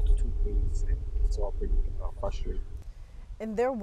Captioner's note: radio interference drowns out the sound